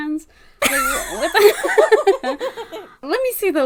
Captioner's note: laughs